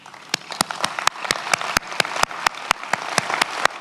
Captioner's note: many applauding